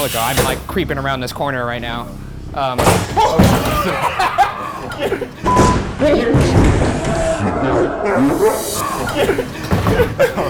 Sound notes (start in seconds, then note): 2.9 window thudding; 3.2 nervous laughter